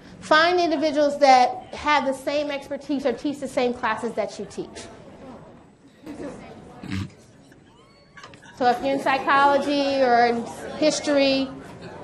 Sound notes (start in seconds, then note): 5.1 mixed chatter